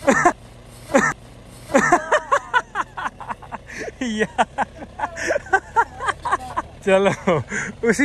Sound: laughs

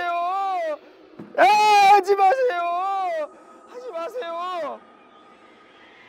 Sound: almost crying

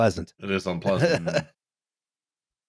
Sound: laughing

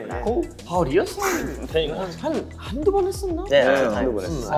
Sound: speaking Korean

